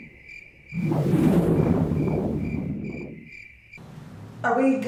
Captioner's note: insects chirping; orb whooshing